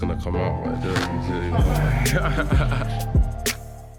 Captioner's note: laughing